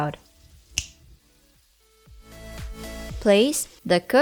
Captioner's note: fingers snap